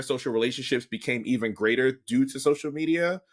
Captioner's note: none